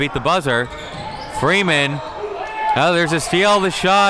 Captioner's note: man yells